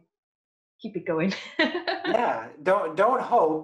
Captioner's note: laughs